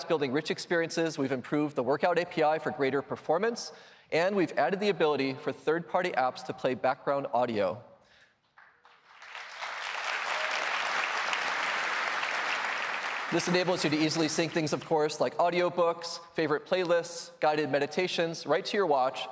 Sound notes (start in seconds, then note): 8.4 applause